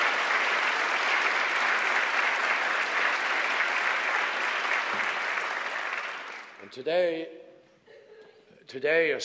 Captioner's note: applause